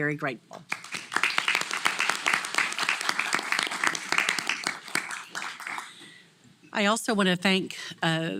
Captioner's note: applause